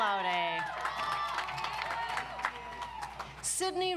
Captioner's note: audience applauds